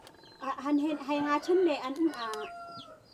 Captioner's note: foreign language